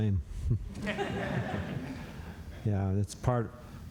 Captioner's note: laughter